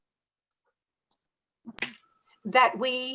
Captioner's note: sound loss